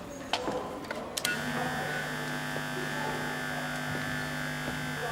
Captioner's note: feedback buzzes